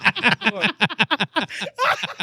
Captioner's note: laughing